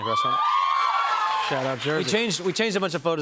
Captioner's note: cheers and applause